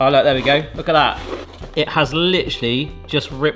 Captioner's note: pie maker scrapes